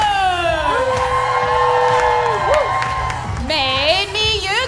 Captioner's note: cheering